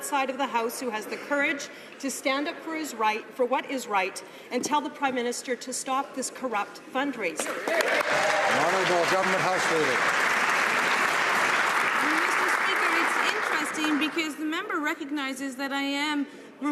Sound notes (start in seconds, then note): 10.7 some Applause